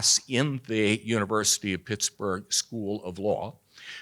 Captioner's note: none